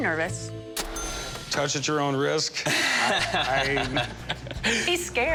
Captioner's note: laughing